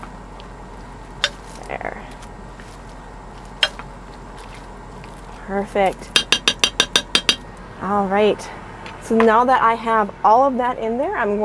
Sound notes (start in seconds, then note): 6.1 spoon tapping